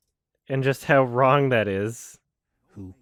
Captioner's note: slight chuckle